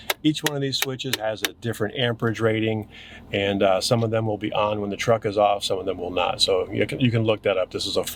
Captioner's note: none